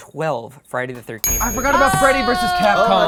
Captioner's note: bell dings